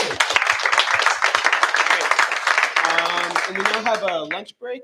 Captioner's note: applause